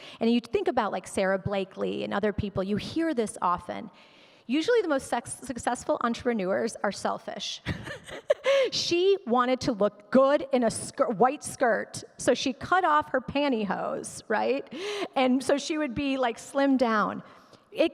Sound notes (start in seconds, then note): 7.6 laughs